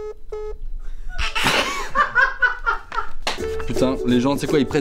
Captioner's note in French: rire